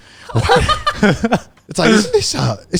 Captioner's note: laughing